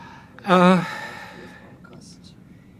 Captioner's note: sighing